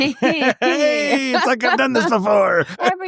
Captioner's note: laughing